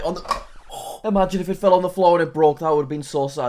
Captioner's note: huffs